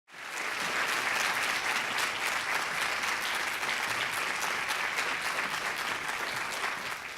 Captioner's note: applause